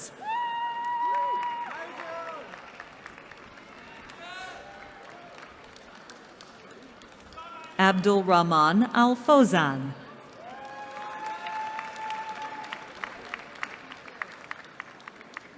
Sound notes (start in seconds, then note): 0.1 cheering; 10.2 cheering